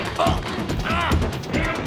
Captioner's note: grunting